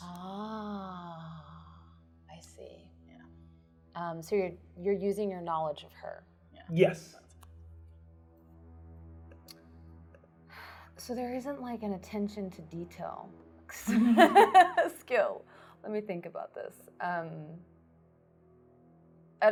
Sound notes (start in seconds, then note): 13.7 laughs